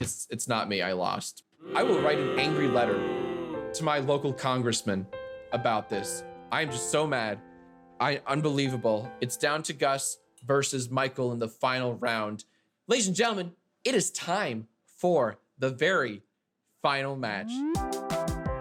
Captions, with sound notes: It's not me, I lost. (children booing) I will write an angry letter to my local congressmen about this. I am just so mad. I... Unbelievable. It's down to Gus versus Michael in the final round. Ladies and gentlemen, it is time for the very final match.